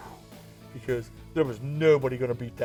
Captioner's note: blowing sound